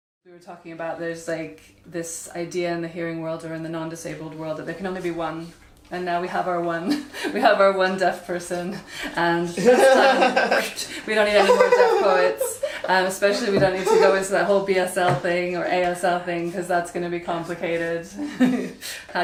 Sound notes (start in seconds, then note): 5.9 sarcasm